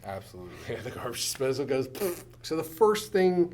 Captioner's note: poof